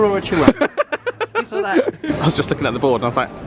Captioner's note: laughs